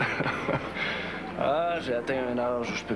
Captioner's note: Rires